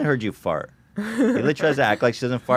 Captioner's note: laughs